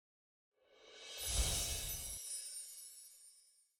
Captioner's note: chimes